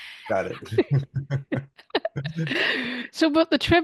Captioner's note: laughs